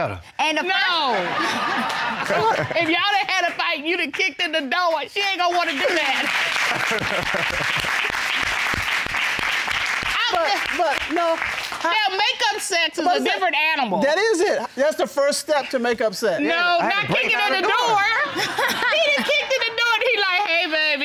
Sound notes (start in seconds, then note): 5.9 audience applauds; 6.7 all laughs